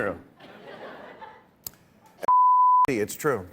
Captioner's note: laughter